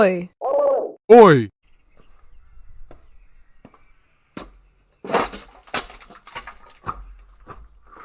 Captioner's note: footsteps get closer